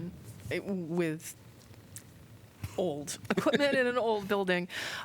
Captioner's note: laughter